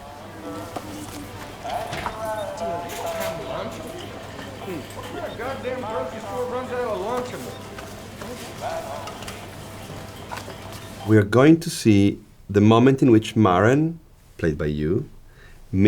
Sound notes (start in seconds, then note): 0.0 romantic music; 3.5 people chattering